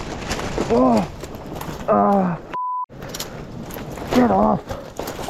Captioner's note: beep